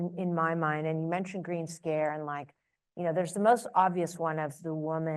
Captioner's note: none